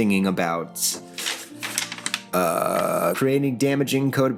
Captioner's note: paper flipping